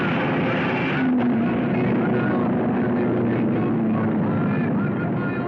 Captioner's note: cars screaming